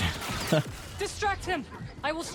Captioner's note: laughs